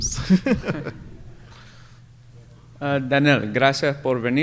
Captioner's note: laughter